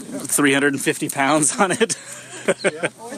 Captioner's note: laughs